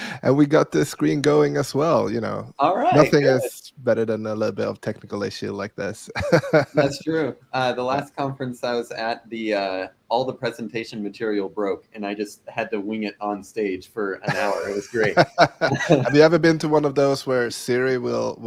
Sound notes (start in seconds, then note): 6.1 laughing; 14.2 laughing